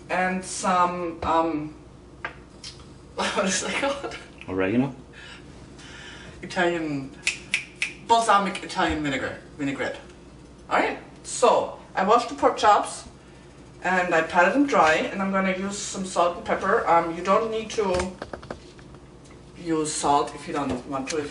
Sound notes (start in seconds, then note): 3.6 laughter; 7.2 snaps fingers